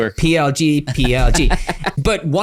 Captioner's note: laughs